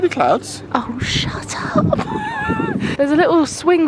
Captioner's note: laughs